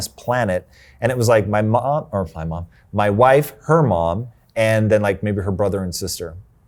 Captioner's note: stammers